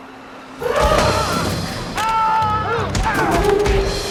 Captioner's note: both Yelling